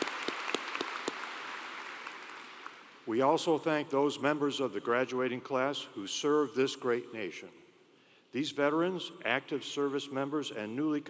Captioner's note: applause